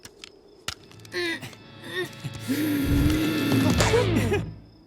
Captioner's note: grunting, growling; awkward chuckle